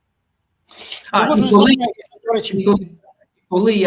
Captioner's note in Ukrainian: сопіння